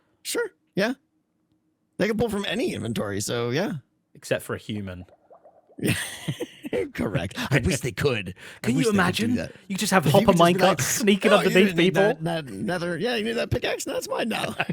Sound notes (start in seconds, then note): 5.8 laughs